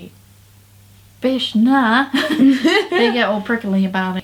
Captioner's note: laughs